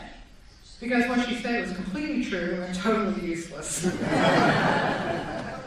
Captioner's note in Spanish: Risas